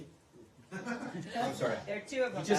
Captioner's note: laughter